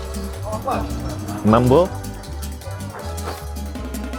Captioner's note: Saying "hello" in Swahili